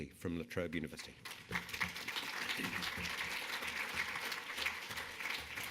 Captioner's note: audience applauding